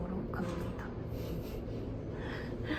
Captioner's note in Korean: 웃음